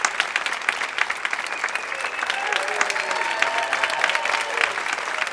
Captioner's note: cheering intensifies